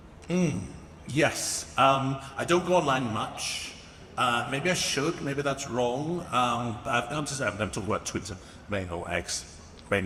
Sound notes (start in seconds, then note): none